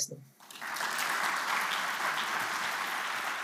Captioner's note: applause